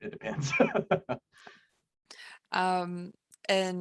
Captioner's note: laughs